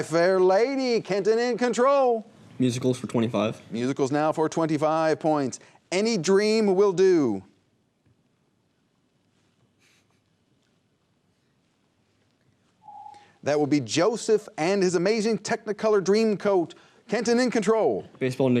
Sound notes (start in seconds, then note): 10.4 whispers; 12.8 ringing